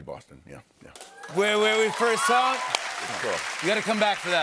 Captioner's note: cheers and applause